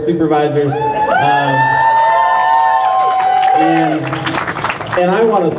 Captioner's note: crowd cheers